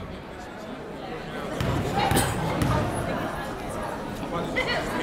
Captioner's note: chattering